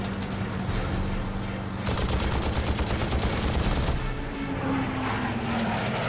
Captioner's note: gunfire